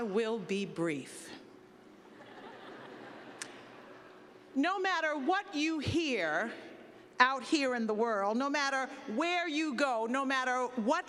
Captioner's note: laughter